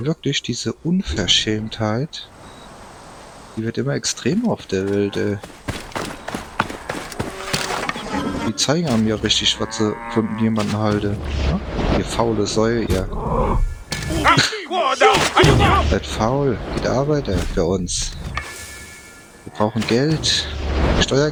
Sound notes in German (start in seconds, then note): 14.0 stöhnen